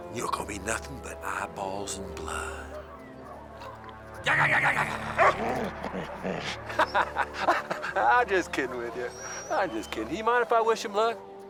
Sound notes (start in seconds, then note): 4.3 Heep growling; 4.3 Buck barks; 6.6 laughing